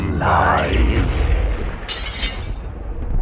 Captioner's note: glass Shattering